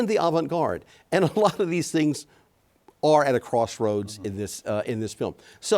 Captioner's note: chuckles